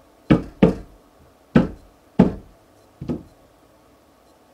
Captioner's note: banging